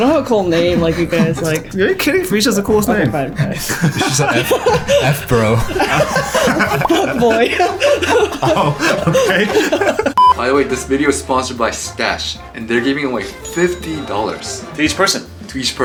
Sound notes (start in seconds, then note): 4.1 chuckles; 6.0 laughs